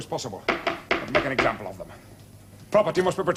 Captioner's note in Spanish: Llaman a la puerta